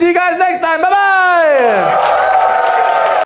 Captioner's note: audience cheers and applauds